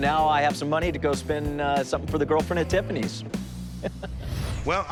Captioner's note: chuckles